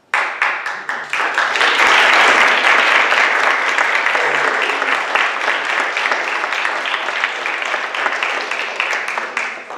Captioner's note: audience clapping